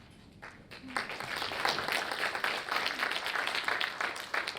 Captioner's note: audience applauds